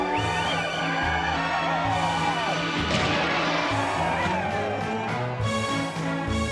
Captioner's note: <i> cheering</i>